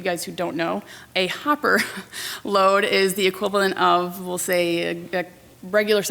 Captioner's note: laughs